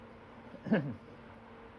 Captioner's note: clears throat